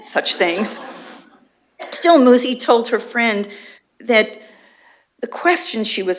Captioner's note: laughter